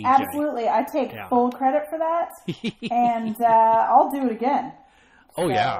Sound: chuckles

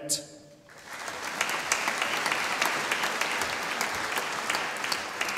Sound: audience applauding

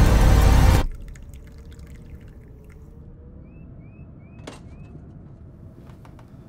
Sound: wind whistling; birds chirping

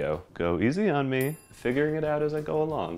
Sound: bell dings

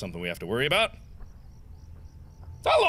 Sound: footsteps

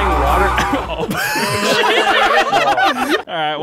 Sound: all laughing

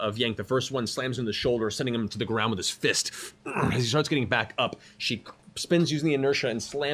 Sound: grunts

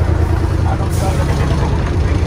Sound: Arabic

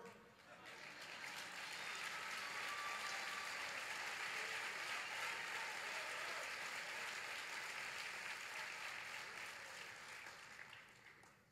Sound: applause

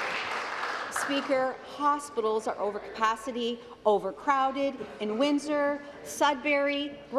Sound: applause

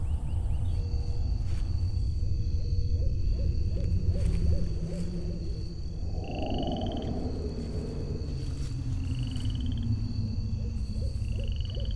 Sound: night sounds

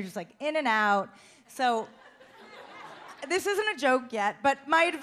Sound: audience laughs

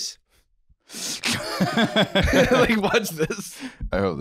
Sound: laughing

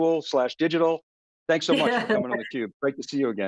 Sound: laughs

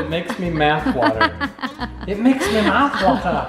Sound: laughing

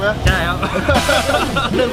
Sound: laughs

